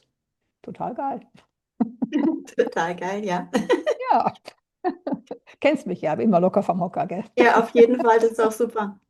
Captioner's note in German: gelächter